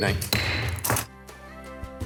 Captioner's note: gavel bangs; gentle music